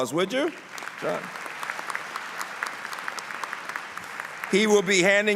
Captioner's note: applause